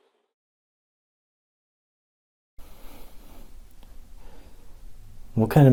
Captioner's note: silence